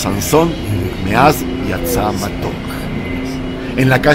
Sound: Hebrew

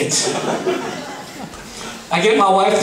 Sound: laughing

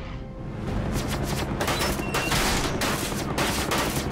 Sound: gunfire, bullets clanging

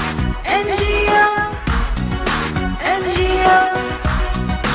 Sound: clap; clap

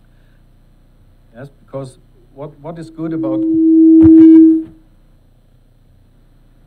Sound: mic humming loudly

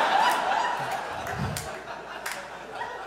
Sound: audience laughs

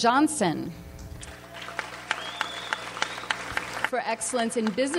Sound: audience applauds

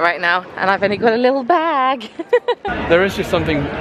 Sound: laughing

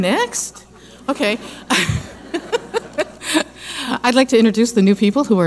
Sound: laughing

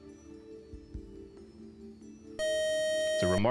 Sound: time-out buzzer

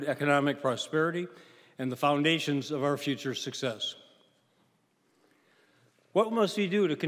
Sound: none

